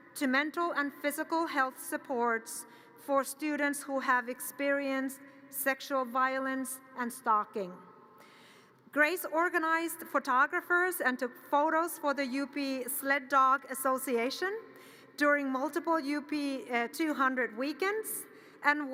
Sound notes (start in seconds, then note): none